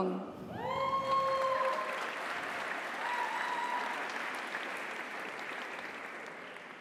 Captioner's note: audience cheers; audience applauds